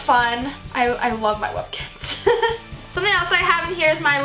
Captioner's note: laughs